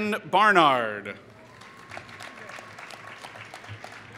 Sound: applause

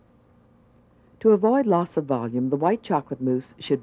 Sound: voiceover

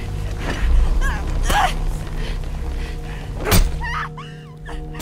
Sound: Yara struggling and screaming

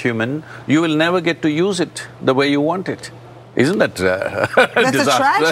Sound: laughs

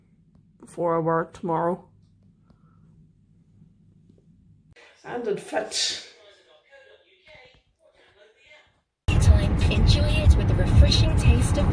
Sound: car radio in background

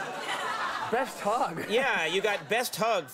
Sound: audience laughs

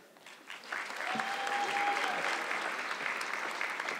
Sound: audience clapping

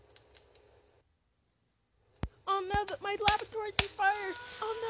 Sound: screams

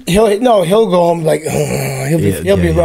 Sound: groans

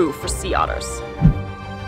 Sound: background music; sound effect

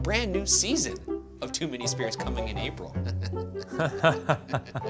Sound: chuckles

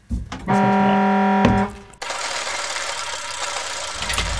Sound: horn honking

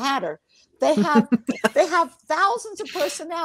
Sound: laughs

